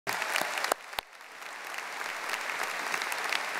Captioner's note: audience applauding